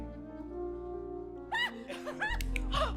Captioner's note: laughing excitedly